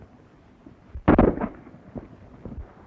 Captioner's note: gunshot